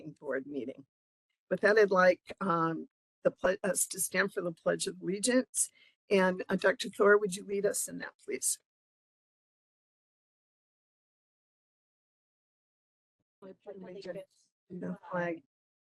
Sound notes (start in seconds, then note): 10.7 group speaking together